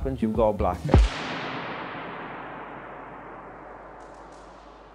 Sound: lightening bolt claps

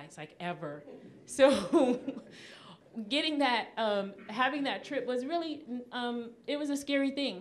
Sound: audience chuckling

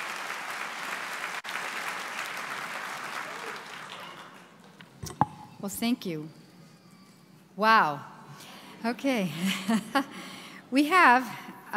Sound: applause

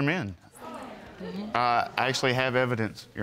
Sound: audience murmuring

